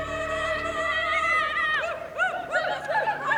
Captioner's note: yelling